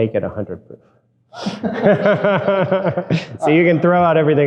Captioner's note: both laughing